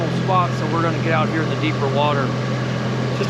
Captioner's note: boat engine running